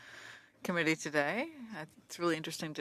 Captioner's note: speaking French